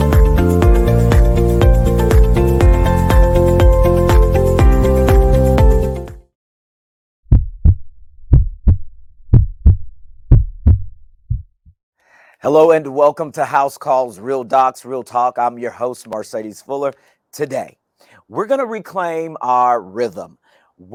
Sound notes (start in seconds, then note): 9.2 heart beating